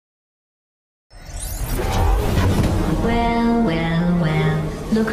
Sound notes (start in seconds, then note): 1.3 whirring